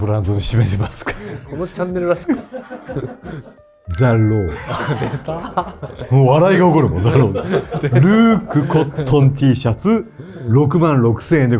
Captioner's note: laughter